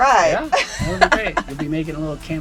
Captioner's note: laughs